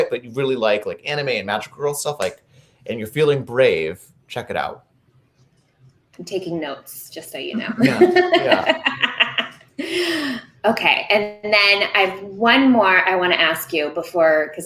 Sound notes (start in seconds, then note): 7.6 laughing